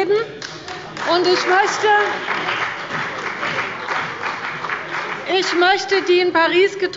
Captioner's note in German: Beifall bei Abgeordneten der CDU und bei dem BÜNDNIS 90/DIE GRÜNEN